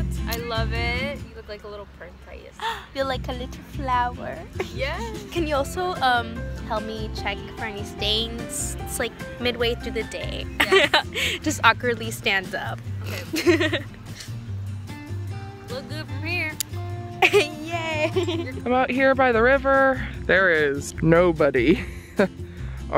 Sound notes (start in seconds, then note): 2.6 gasps; 10.6 laughs; 13.0 laughs; 17.2 laughs